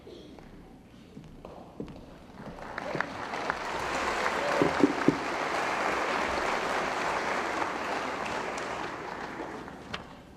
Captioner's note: applause